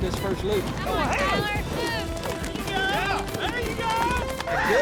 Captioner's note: all shouting